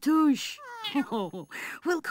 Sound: cat meows; chuckles

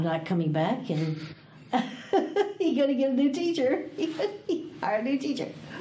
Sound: laughs

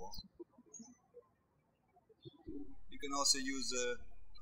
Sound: birds chirping

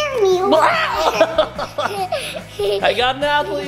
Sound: dad screams; laughing

